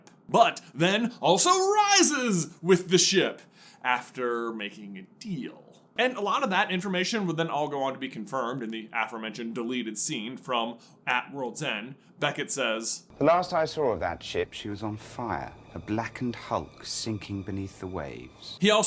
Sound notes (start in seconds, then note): none